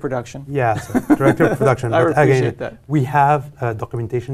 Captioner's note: laugh